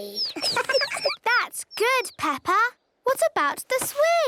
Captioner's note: tweets